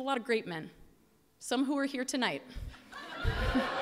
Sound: laughter

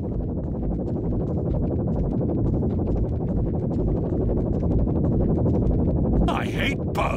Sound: Mortar Synth Hovers

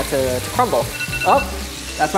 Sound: timer beeping

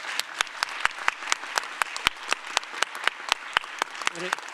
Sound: applause

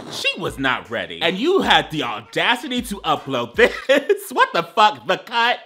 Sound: laughing

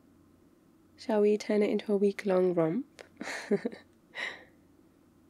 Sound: laughs

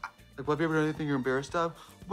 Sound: deep voice

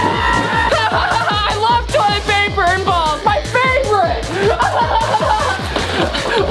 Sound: laughing

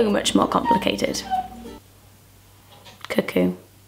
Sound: music stops; cuckoo clock cuckoos

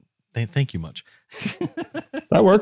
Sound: laugh

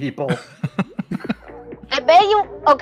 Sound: chuckles

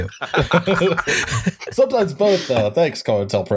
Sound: laughter

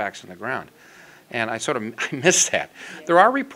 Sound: laughs

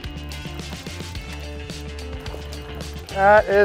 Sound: water splashing

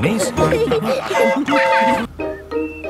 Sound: train whistle toots

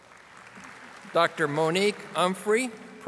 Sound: audience applauding

